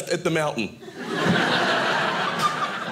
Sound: audience laughing

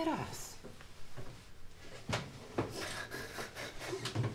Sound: boy attempts to hold back sobs

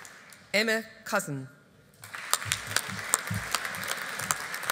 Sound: audience applauding

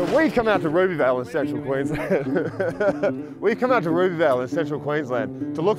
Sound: laughs

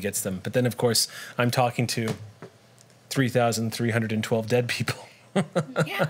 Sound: laughs

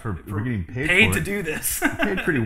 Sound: laughs

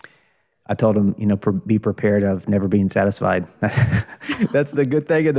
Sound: chuckles

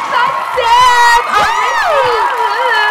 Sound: clapping and cheering

